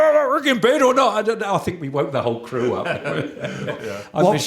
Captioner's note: laughter